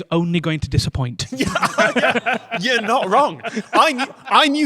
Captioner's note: group laughter